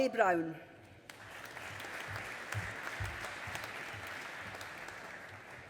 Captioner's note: audience applauding